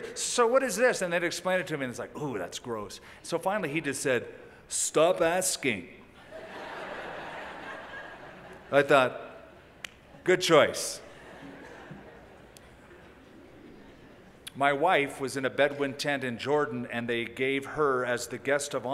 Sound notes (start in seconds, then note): 6.4 impersonating Chuck Smith; 10.5 laughter